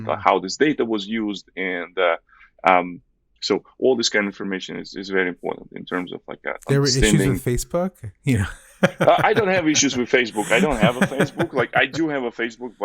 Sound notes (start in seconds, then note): 8.0 laughs